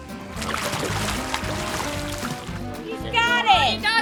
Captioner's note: nudist splashing sounds